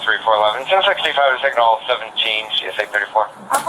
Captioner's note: radio chatter